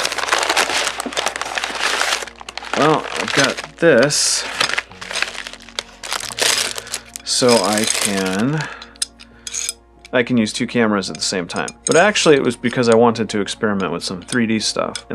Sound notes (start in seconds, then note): 0.1 package rustling; 6.0 package rustling; 9.0 metal bolt slides